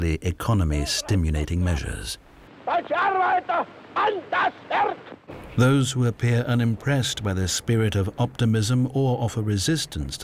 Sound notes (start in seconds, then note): 3.2 hitler speaking german